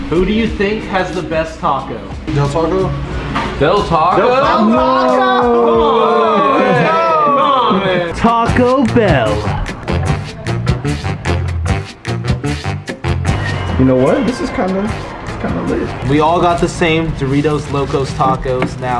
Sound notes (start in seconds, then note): 4.3 group boos; 9.4 upbeat instrumental music